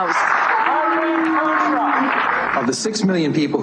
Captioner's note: booing and jeering